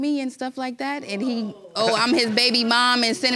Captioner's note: audience exclaiming